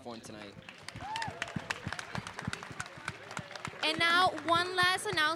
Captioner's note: applause